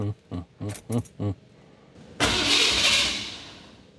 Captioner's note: chuckles